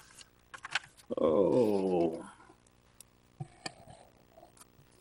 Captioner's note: groans